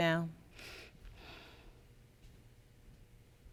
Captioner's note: exhales